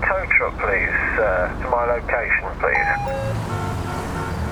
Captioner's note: radio